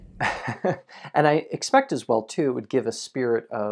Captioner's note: chuckles